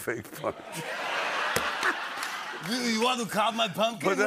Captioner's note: laughter and applause